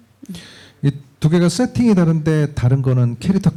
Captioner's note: speaking korean